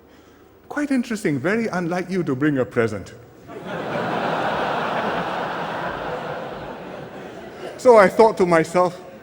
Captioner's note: laughter